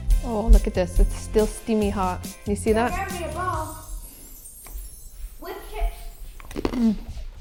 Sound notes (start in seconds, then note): 6.4 cracker crunching